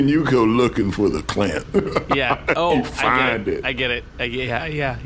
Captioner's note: laughs